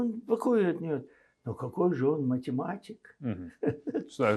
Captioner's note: laughing